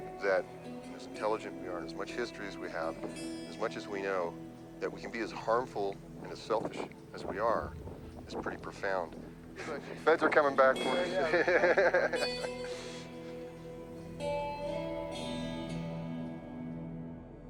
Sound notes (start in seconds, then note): 11.6 laughing